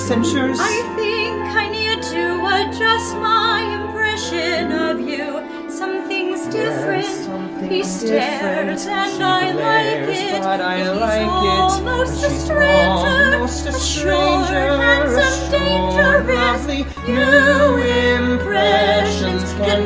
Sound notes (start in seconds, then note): 16.0 LAURIE: Assured, lovely